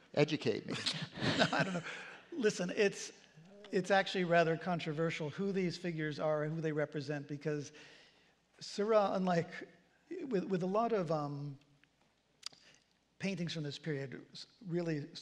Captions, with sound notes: Educate me. [CHUCKLE] I don't know. Listen. It's actually rather controversial who these figures are who they represent. Because Seurat, unlike-- with a lot of paintings from this period, really